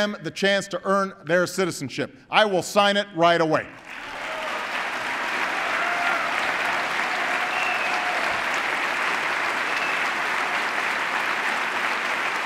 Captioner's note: applause